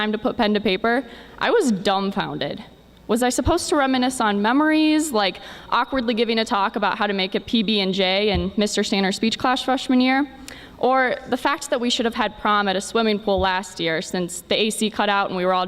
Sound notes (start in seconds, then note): none